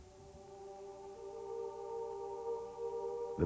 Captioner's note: chanting